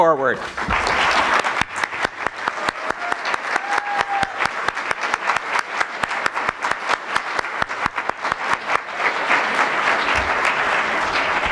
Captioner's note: applause